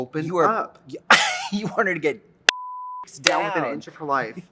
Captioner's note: laughs